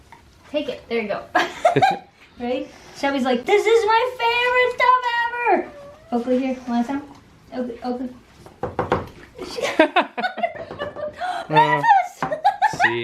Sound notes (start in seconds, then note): 1.4 laughter; 9.4 laughter